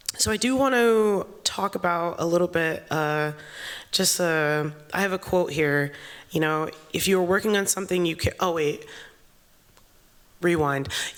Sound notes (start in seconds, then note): none